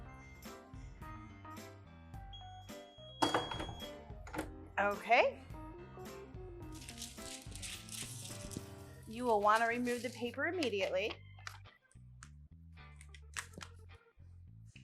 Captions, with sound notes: (press beeping) - Okay. You will want to remove the paper immediately.